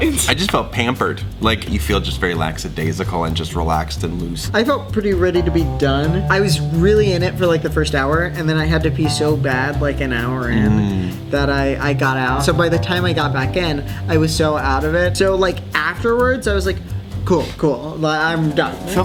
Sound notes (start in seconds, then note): 10.2 makes noise of agreement